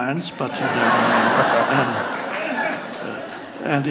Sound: audience laughs

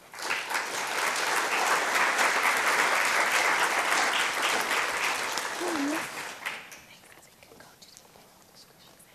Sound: clapping

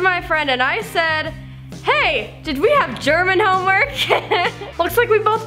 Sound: laughs

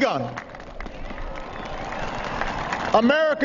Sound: applause

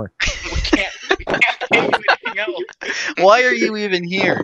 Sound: sniffs

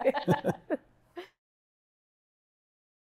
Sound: all laugh

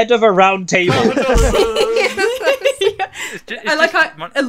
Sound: laughter

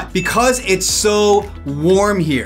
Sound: graphics swish

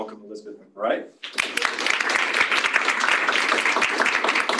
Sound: applause

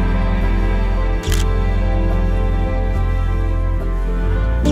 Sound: camera shutter clicks

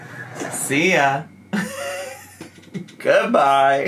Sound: laughs

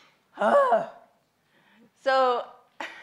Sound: groans

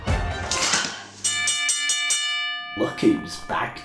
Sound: ding ding ding ding

